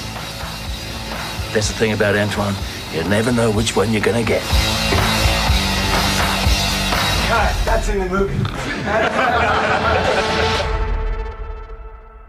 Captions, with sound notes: ANTWAN That's the thing about Antwan. You never know which one you're going to get. SHAWN LEVY Cut, that's in the movie. [Laughing]